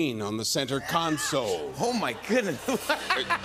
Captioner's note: laughter